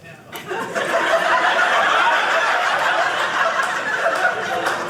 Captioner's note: audience laughing